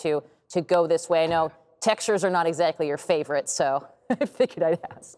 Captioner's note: chuckles